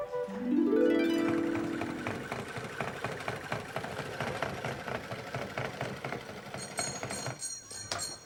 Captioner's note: sewing machine; doorbell rings